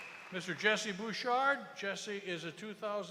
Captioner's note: cheers and applause